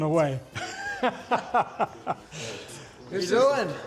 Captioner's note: man laughing